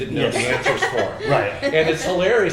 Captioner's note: Roberta laughing